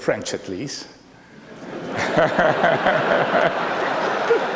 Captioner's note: laughter